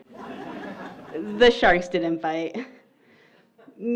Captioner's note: laughter